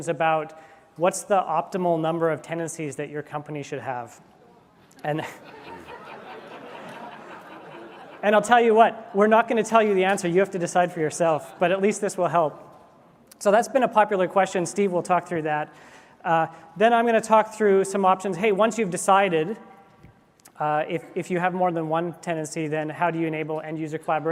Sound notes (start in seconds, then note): 5.1 laughter